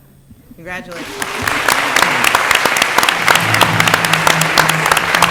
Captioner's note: applause